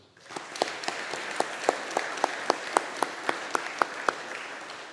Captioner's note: audience applauding